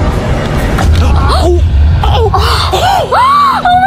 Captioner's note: gasping